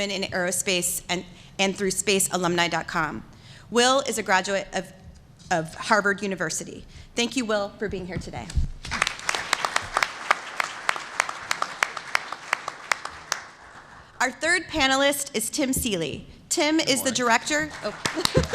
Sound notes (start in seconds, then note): 8.8 applause